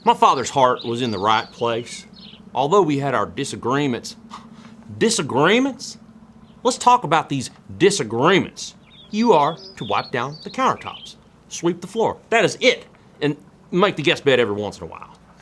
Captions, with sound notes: "My father's heart was in the right place, although we had our disagreements." [SCOFFS] "Disagreements"? Let's talk about these "disagreements". You are to wipe down the countertops. Sweep the floor. That is it! And make the guest bed every once in a while.